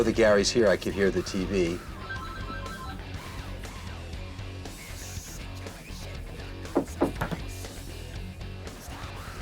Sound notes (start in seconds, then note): 1.8 phone rings; 6.7 knocking